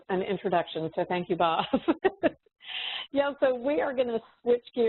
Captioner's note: chuckles